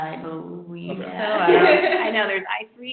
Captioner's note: laughing